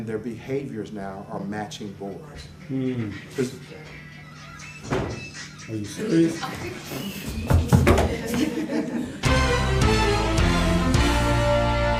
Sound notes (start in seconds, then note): 7.6 knocking